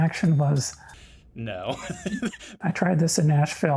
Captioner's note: laughs